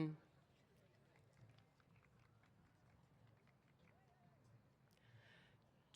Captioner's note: applause